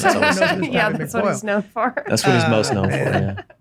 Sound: laughs

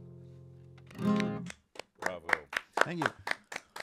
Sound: clapping

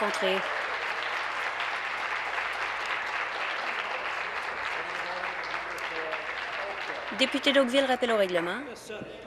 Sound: applause

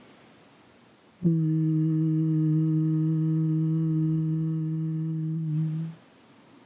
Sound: humming sound

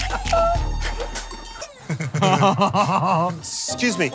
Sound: laughter

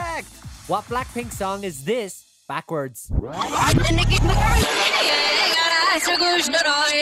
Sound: upbeat music; tape rewinds

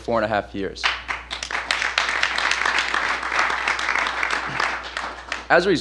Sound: applause

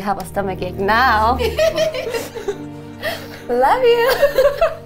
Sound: laughing

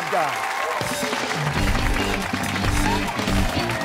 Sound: cheers and applause

